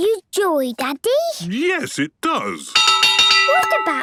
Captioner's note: clanging